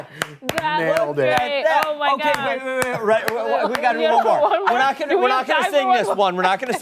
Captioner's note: laughter